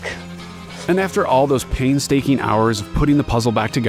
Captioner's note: pat